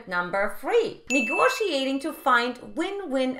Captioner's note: bell dinging